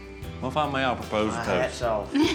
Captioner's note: giggling